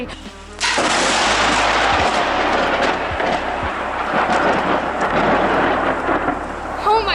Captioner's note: loud thunder